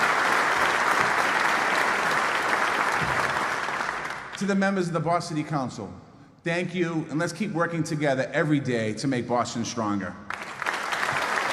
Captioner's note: applause